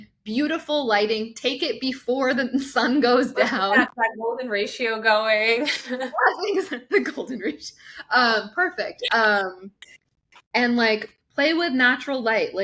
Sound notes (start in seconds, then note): 6.7 laughs